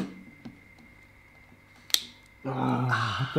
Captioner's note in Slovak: klik